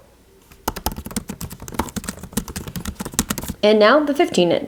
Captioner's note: keypads tapping